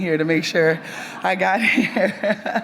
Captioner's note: audience members laugh; chuckles